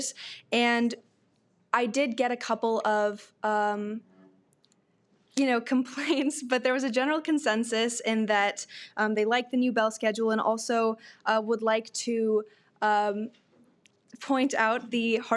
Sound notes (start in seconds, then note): none